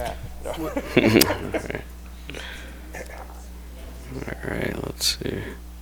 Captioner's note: laugh